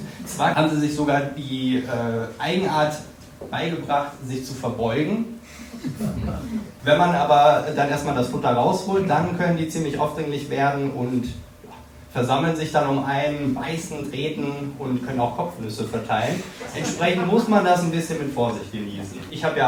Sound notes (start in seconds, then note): 5.8 crowd laughing